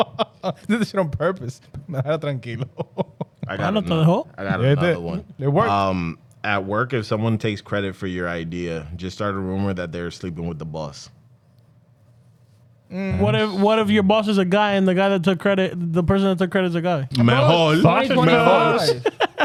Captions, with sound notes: This is on purpose. (Speaking In Foreign Language) I got it, man. I got it, man. I got it, man. It worked. At work, if someone takes credit for your idea, just start a rumor that they're sleeping with the boss. What if your boss is a guy and the guy that took credit, the person that took credit is a guy? Mejor. Mejor. Mejor.